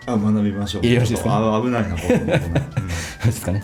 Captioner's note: laughs